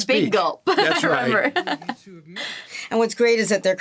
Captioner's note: chuckles